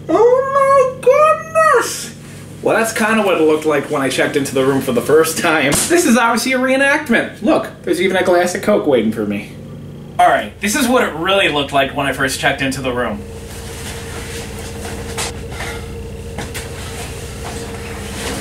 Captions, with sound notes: Oh my goodness! Well, that's kind of what it looked like when I checked into the room for the first time. And this is obviously a reenactment! Look, there's even a glass of Coke waiting for me. Alright, this is what it really looked like when I first checked into the room. (coat rustling)